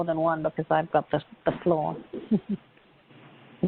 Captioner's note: laughs